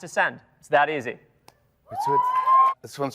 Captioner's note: audience cheers